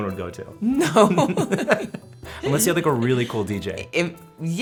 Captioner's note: laughing together